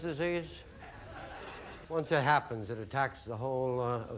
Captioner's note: audience laughing